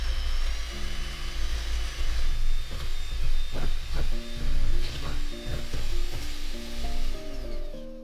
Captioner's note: mixer whirring